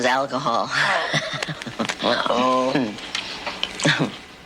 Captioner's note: laughs